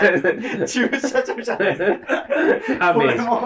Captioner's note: laughing